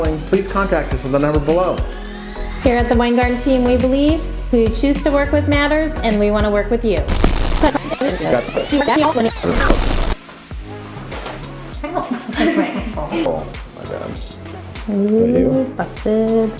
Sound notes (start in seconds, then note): 7.1 tape rewinding; 11.8 laughing